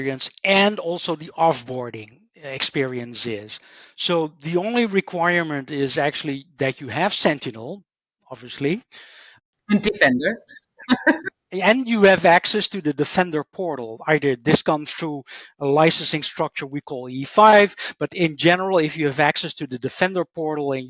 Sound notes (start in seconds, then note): 11.8 laughs